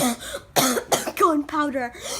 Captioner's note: cough cough